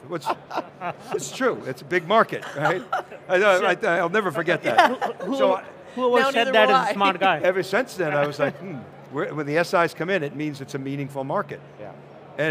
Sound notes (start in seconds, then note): 2.4 laughing